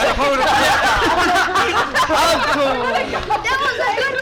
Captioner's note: all laugh